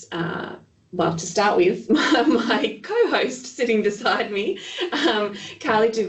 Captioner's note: laughs